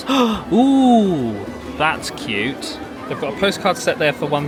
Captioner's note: gasping